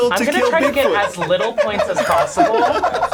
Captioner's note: laughing